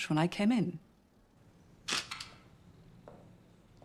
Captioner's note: shutter kamera berbunyi klik